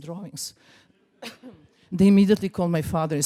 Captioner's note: laughs